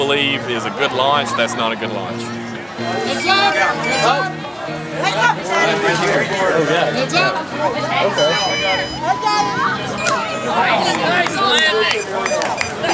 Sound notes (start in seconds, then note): 3.5 beeping; 5.1 crowd noise; 10.4 cheering